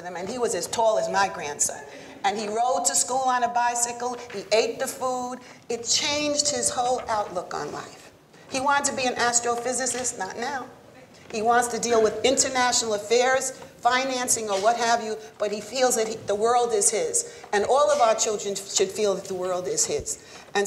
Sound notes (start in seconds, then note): none